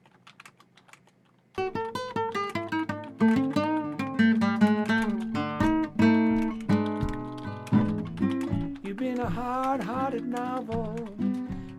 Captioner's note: typing